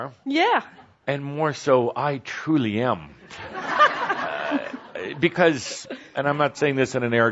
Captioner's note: laughter